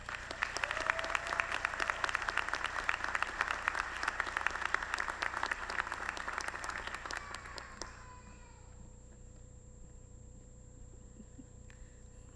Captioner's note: applause